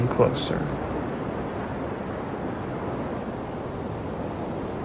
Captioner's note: waves rumbling